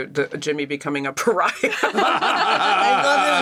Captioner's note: laugh; laughs